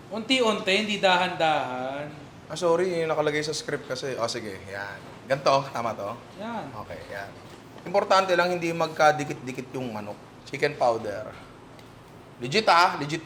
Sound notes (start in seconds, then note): none